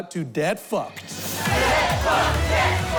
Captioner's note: audience chanting